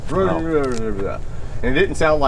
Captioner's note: mumbling